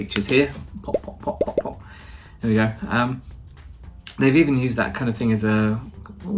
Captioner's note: pop pop pop